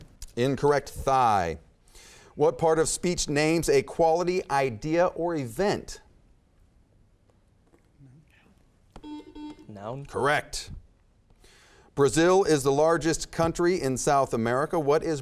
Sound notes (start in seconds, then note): 9.0 beeping